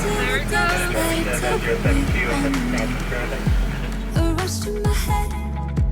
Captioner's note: pilot talking on radio